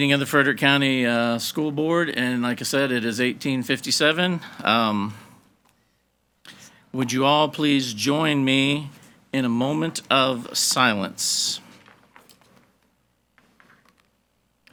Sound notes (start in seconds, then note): none